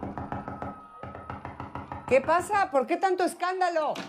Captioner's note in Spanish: Toques en la puerta